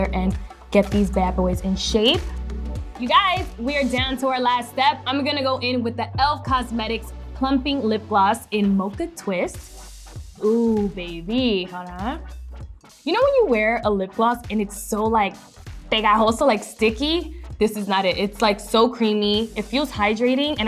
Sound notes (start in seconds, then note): 15.4 speaking foreign language